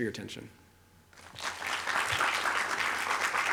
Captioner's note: applause